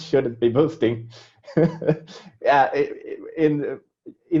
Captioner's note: laughing